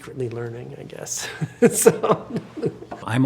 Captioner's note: laughing